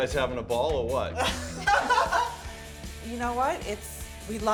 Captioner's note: laughing